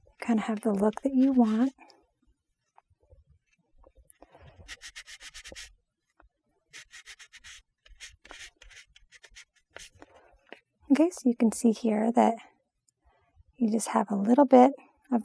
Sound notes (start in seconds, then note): 4.7 block scratching